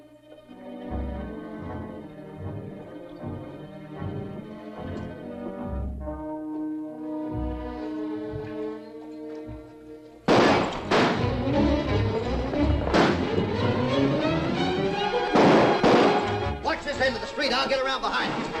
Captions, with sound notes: [ GUNSHOTS ] [ FRANTIC MUSIC ] [ GUNSHOTS ] Watch this end of the street, I'll get around behind!